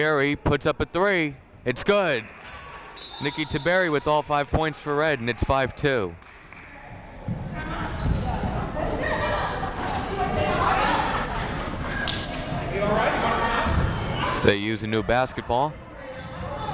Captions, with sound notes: Tabiri puts up a three, it's good. (whistle blowing) Nicky Tabiri with all five points for red, and it's five two. (various players communicating) They use a new basketball.